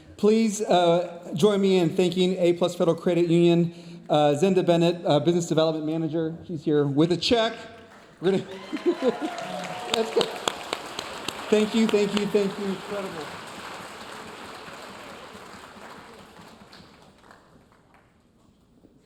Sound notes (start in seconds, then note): 8.3 laughs; 9.2 audience cheering; 10.5 audience applauding; 13.6 audience applauding